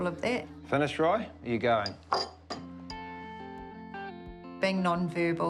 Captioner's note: bowl clatters